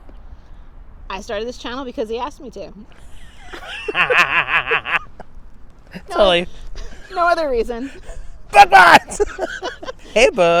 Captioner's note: laughs